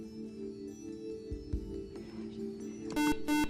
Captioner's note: buzzer